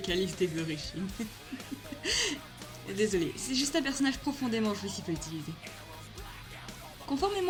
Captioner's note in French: rire